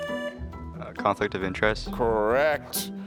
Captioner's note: buzzer sounding